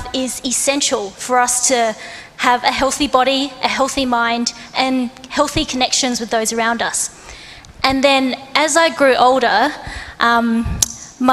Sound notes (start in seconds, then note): none